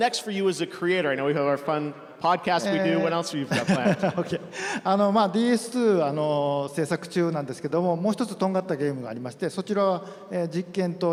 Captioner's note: speaking japanese